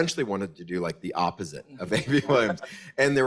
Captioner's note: laughs